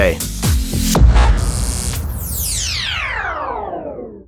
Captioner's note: logo whooshing